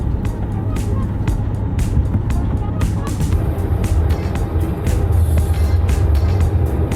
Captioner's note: airplane's engine humming; upbeat music